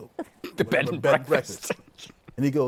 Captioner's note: laughing